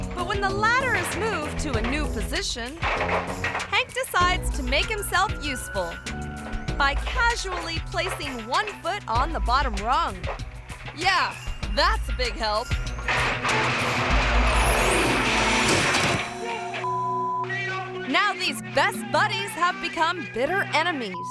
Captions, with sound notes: But when the ladder is moved to a new position, Hank decides to make himself useful by casually placing one foot on the bottom rung. Yeah, that's a big help. (ladder crashing) (climber shouting) Now these best buddies have become bitter enemies.